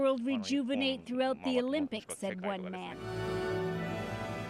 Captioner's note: speaking Foreign Language